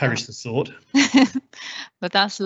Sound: laughs

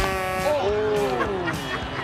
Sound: horn buzzes

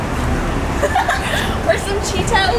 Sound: laughing

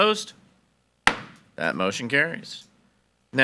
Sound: gavel bangs

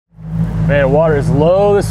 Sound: boat engine roaring

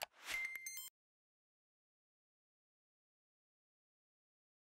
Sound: electronic bleeps

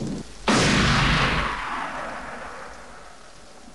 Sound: loud gunshot

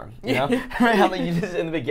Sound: laughing

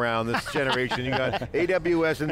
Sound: laughter

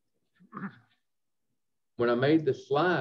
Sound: clears throat

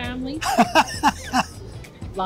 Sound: laughs

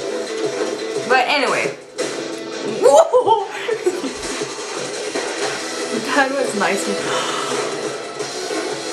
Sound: gasp

